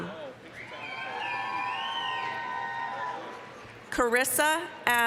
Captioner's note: applause, cheering